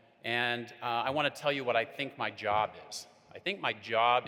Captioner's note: none